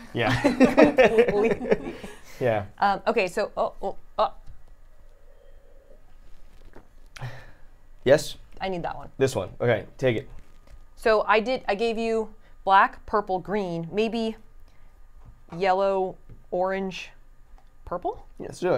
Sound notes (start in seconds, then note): 0.2 laugh; 4.7 stutters